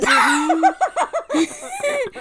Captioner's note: cackles